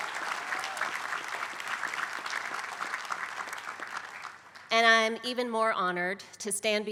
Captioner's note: applause